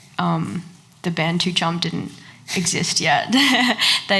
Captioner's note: laughs